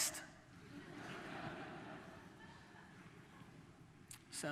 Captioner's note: audience laughter